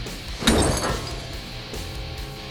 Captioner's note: deep metal impact